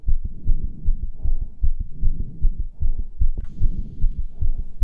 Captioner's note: rapid breathing